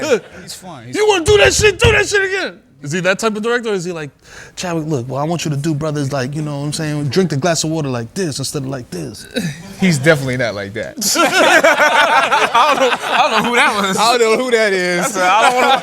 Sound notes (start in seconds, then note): 11.0 laughter